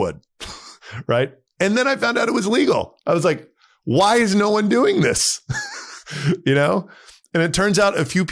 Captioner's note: laughs